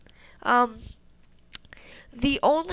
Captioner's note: lip smack